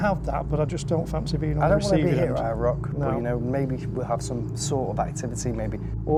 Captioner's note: none